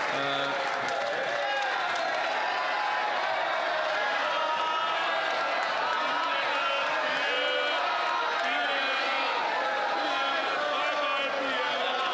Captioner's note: some Applause